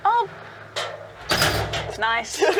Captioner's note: garage door shuts; laughs